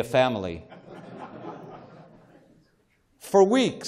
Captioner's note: laughter